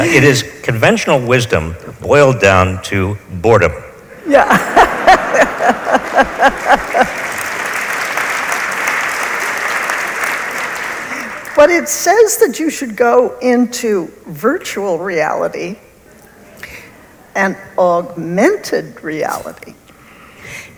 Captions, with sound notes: It is conventional wisdom boiled down to boredom. - Yeah (laughs). (audience applauds) But it says that you should go into virtual reality and augmented reality.